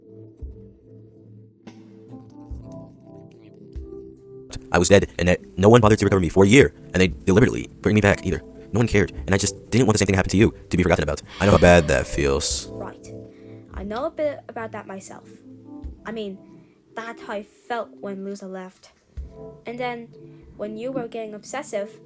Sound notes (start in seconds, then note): 5.0 narrating; 11.3 sigh